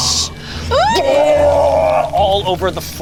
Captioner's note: inhales; vomiting